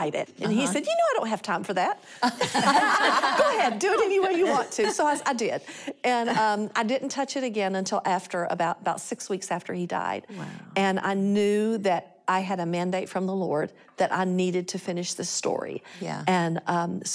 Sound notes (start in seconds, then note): 2.2 laughter